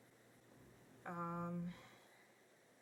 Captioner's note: sighs